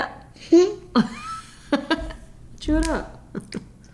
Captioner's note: laughing